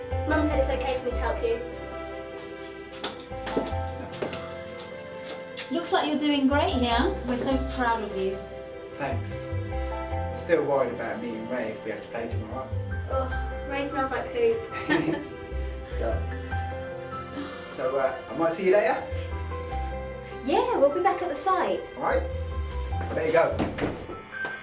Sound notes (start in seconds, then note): 14.7 laughs